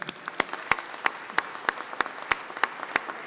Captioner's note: applause